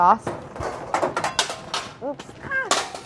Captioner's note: clattering